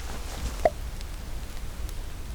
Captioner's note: pop